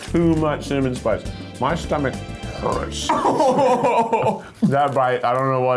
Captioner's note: laughing